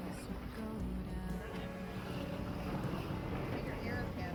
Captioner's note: wind blowing